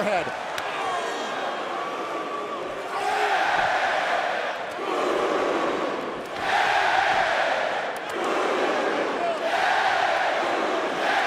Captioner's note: crowd cheering